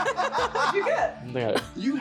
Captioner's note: laughing